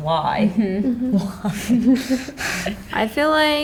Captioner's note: laughter